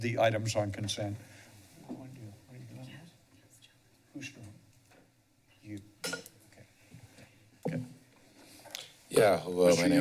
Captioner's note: background chatter